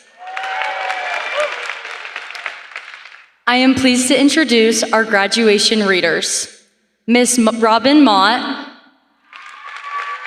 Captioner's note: applause